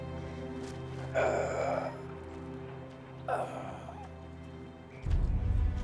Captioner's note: moaning